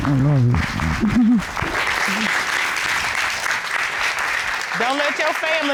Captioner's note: cheers and applause